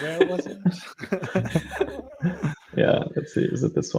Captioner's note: all laughing